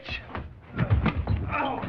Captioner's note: body thuds